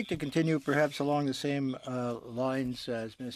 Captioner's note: speaking in french